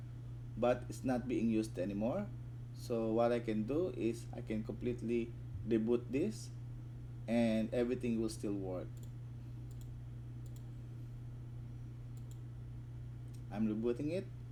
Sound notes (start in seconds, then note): 9.4 click